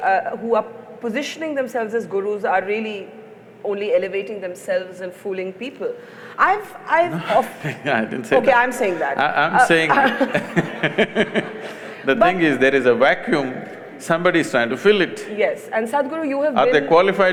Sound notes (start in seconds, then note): 6.9 laughs; 8.8 laughter; 12.0 laughs